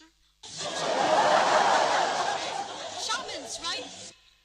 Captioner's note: laughter